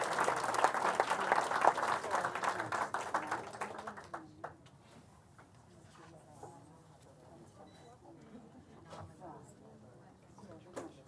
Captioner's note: applause